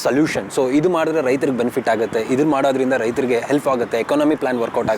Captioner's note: speaks in Kannada – Not Transcribed